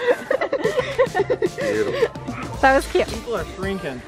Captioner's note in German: lacht